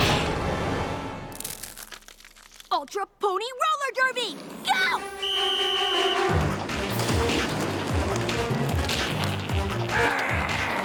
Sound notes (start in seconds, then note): 5.0 whistle blows; 8.0 growling